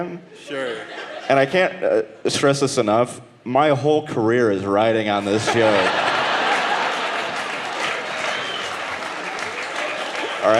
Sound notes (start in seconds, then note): 5.2 audience laughing; 9.3 audience clapping